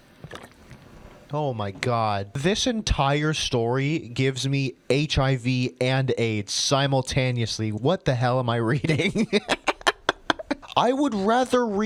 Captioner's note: cracks up